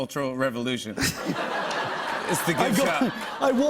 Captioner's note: laughter